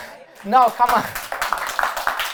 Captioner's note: applause